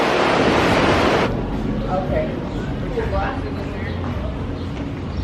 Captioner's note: waves continue to rush in